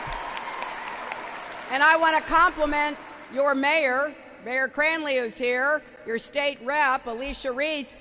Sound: applause

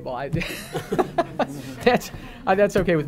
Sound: audience laughing

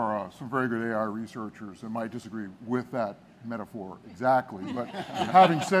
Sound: laughing

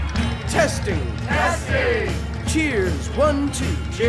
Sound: crowd

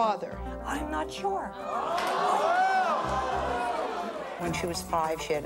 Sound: audience clamors

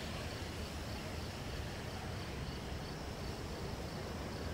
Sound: crickets chirping

